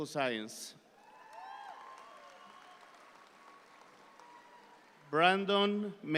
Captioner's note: audience applauds